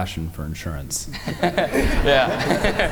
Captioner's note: all laugh